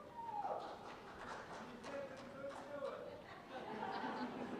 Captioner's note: cheers and applause